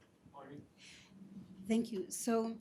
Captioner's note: faintly speaking